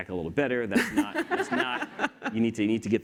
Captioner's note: laughter